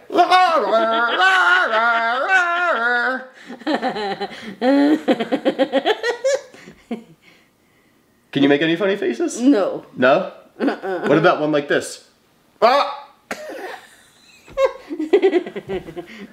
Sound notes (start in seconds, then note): 0.0 squawking; 0.0 laughing; 13.0 squawks; 13.4 laughs